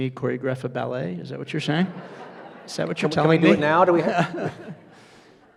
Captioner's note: audience laughs